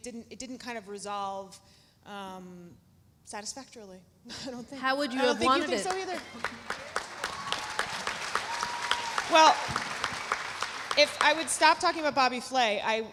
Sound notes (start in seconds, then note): 5.4 audience cheering; 5.4 audience applauding